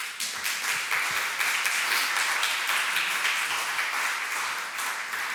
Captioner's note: attendees applauding